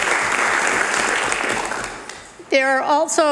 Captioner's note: cheering/Applause